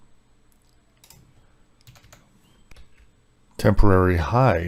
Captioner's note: keyboard clacking